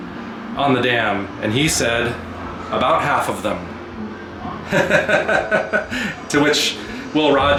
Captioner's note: laughter